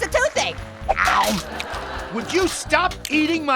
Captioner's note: bites; laughs; audience laughs